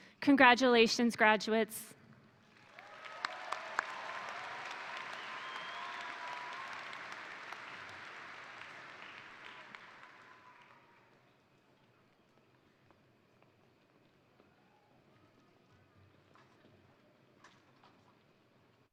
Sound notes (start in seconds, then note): 2.4 crowd applauding; 2.5 crowd cheering